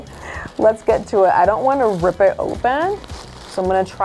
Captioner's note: tissue paper crinkles